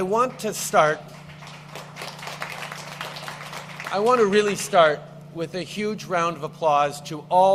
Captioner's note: applause